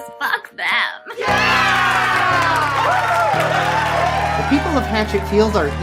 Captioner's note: crowd; cheers